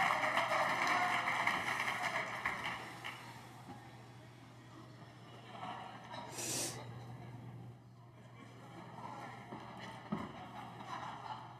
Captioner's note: applause